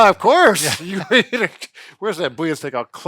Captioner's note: laughs